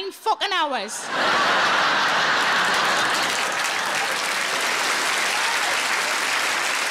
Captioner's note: audience laughing and applauding